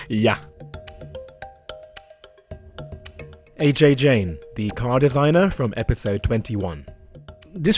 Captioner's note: voiceover